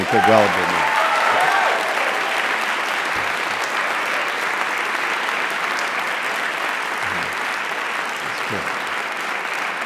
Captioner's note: applause